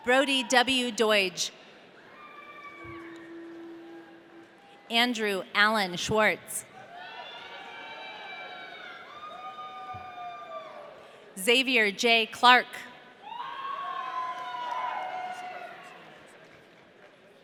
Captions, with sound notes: Brodie W. Doidge. (audience cheering) Andrew Alan Schwarz. (audience cheering) Xavier J. Clark. (audience cheering)